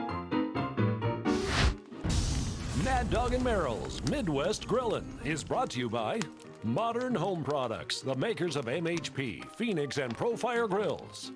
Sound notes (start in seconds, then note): 1.3 air whooshing